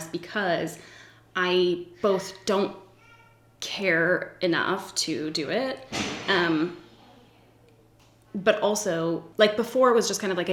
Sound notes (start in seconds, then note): 5.9 bang